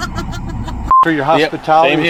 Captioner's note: laughing; camera beeping